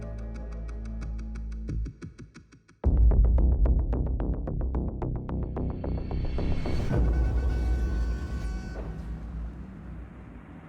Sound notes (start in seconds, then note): 2.4 intense music plays; 6.4 cars honking